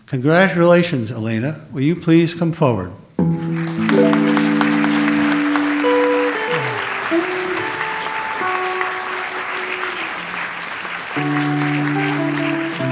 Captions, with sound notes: Congratulations, Elana, will you please come forward? (audience applauds) (light jazz music)